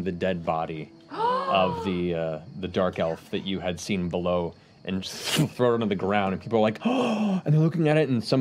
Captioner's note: gasps